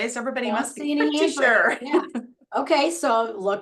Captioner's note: chuckles